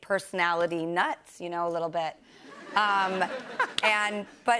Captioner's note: laughter